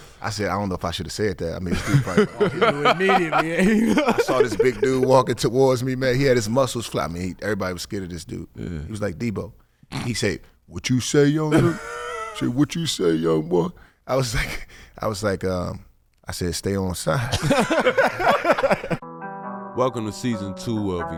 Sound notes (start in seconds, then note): 1.7 laughing; 17.3 laughing; 19.2 gentle R&B music